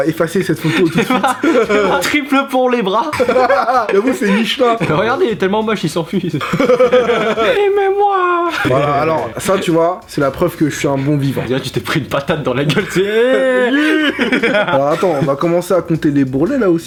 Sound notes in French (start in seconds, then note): 3.7 rire; 6.2 rire